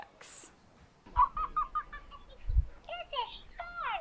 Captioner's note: Elmo giggling